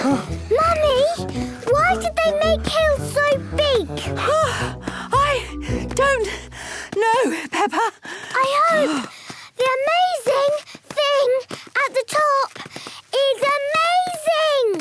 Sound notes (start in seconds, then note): 0.0 panting; 4.2 panting